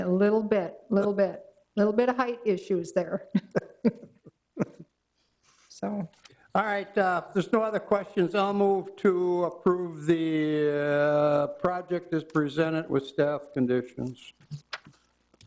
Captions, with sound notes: A little bit, little bit. Little bit of height issue there. (all chuckle) All right, if there's no other questions, I'll move to approve the project as presented with staff conditions.